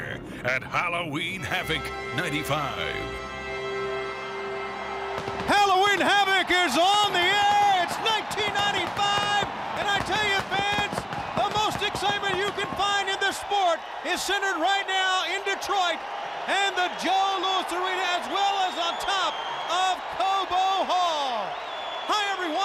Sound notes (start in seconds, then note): 6.1 crowd cheering